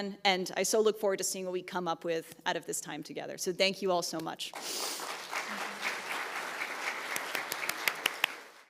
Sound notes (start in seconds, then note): 4.5 group clapping